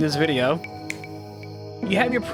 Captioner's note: snaps